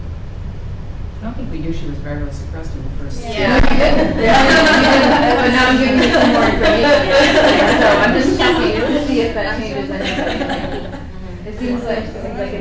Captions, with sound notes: - I don't think we knew she was virally suppressed in the first. - Yeah. - Yeah. (group chatter)